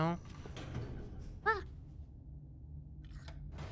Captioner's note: elevator clangs